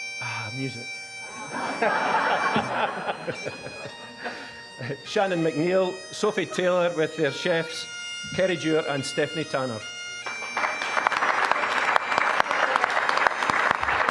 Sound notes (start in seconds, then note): 1.3 audience laughing; 10.2 applause